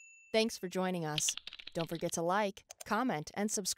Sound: bell chiming; computer keys clicking

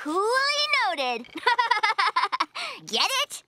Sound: laughing

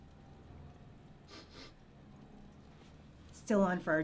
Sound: sniffing

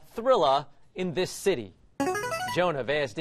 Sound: buzzer plays

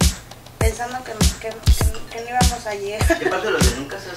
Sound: scoffs

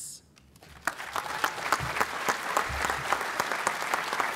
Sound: applause

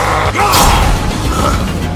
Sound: angry forest man growls; angry forest man screams

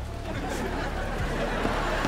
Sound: laughing

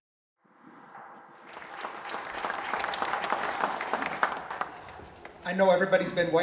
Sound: applause

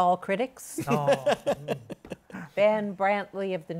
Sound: laughter

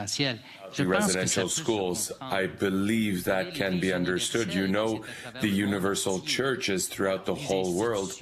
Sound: speaking French

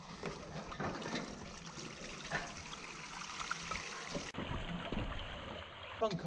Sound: splashing

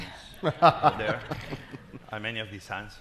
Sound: panelists laughing

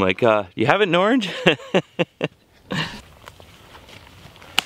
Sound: laughs

